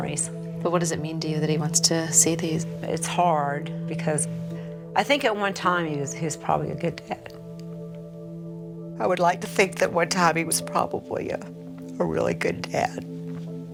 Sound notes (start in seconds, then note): 8.4 voice breaking